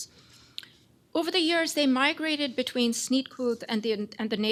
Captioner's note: non-english